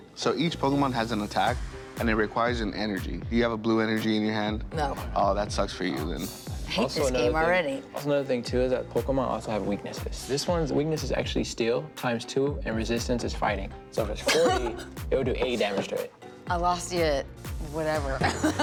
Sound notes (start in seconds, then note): 14.2 laughing; 18.2 laughing